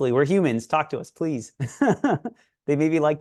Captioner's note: laughs